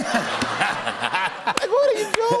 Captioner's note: laughter